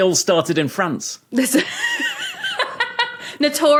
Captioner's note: laughs heartily